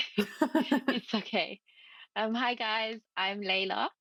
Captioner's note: laughs